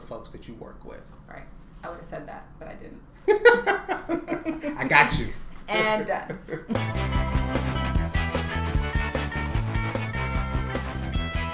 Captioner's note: laughter